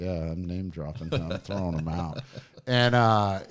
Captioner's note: chuckling